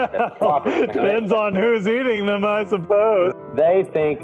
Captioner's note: laughs